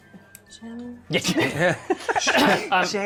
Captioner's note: laughter